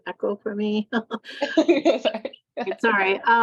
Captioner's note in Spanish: risas